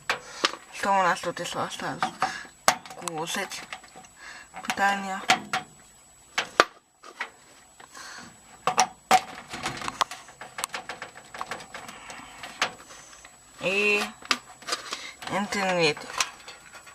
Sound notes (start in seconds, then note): 3.4 electricity